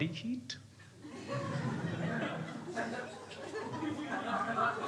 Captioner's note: crowd laughing